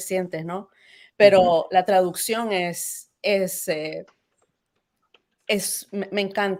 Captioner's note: speaks Spanish; speaking in Spanish